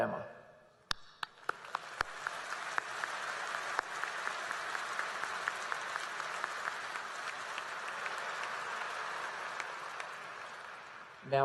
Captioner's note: applause